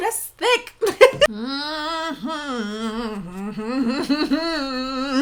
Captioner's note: hums nervously